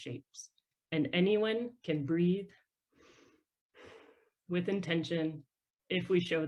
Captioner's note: breathes deeply